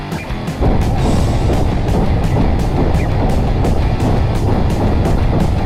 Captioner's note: explosion booming; gunfire popping